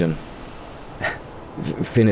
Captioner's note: chuckle